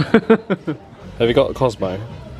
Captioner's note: chuckles